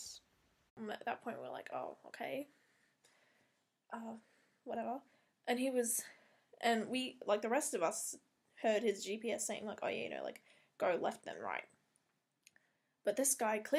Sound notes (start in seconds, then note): 10.4 but like in a siri voice